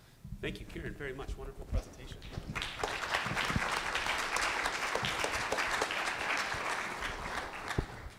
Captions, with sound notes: >> Great. Thank you, Kieran, very much, wonderful presentation. [ Applause ]